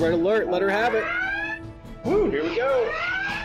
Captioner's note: sirens blaring in simulation